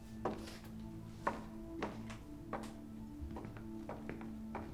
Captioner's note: none